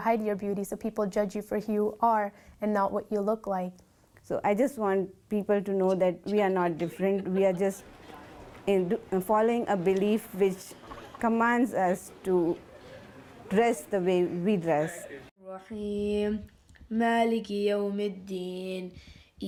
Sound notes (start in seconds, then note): 17.6 chanting